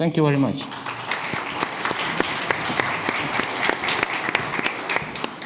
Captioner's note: audience clapping